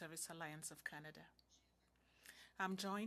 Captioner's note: speaking French